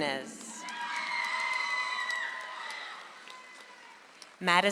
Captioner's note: audience applauds